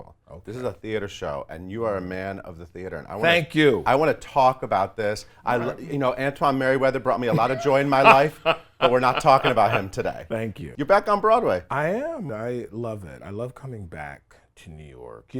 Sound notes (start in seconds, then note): 8.2 David laughs